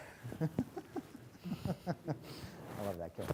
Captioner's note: laughing